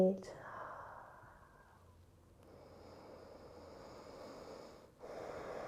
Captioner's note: breathing